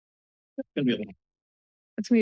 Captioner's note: background conversations